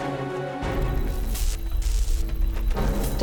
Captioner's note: crackling